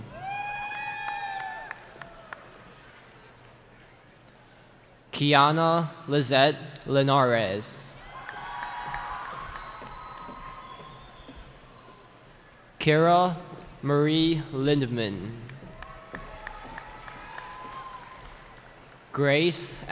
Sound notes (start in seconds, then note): 0.0 cheering; 7.9 cheering; 15.6 cheering